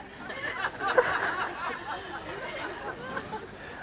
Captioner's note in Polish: śmiech